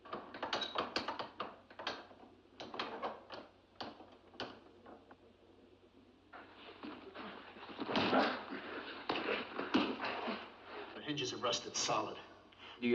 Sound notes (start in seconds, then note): 7.8 door rattles